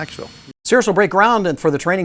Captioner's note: voiceover